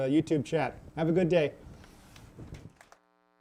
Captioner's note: applause